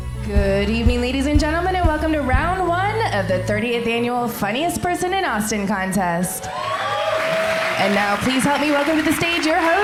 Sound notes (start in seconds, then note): 5.9 cheering; 6.4 applause